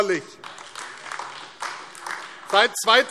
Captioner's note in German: Beifall AfD